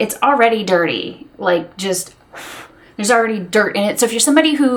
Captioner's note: blows air